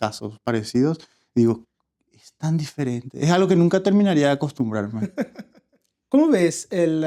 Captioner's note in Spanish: risas